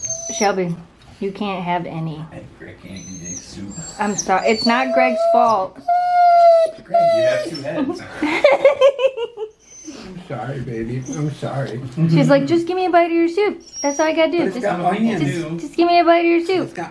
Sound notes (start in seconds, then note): 0.1 whines; 6.5 whines; 6.7 laughs